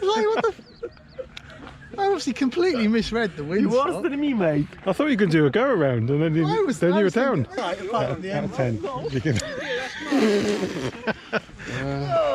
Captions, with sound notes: I obviously completely misread the wind sock. You're worse than me, mate. I thought you could do a go around and then you were down. Our of ten what would you give? [Laughter]